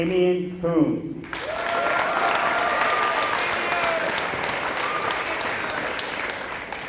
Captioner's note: applause